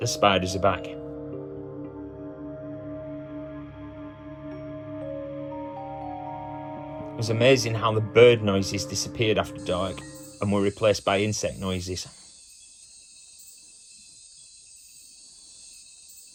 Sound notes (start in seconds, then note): 12.0 jungle sounds - insect noises